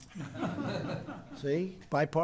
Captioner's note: laughter